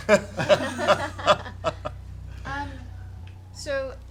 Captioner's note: laughter